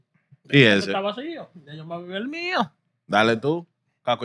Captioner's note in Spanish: Hablando en idioma extranjero